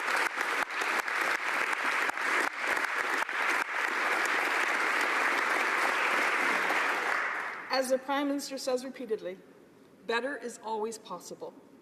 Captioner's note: applause